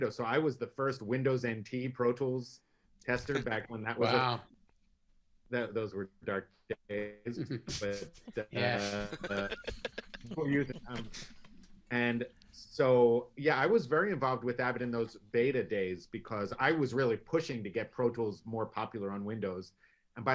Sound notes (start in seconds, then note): 8.3 everyone laughs